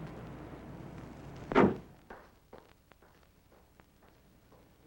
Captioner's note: car door thuds